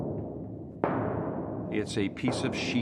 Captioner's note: rumbling; low rumbling